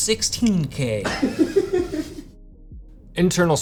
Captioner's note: man behind the scenes laughs